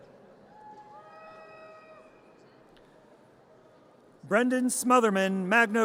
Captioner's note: audience cheers